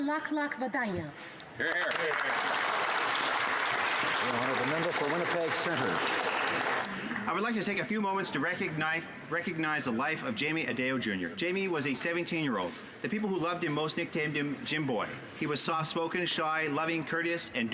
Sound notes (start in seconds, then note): 4.0 speaking alternate language